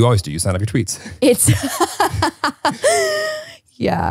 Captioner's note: laughs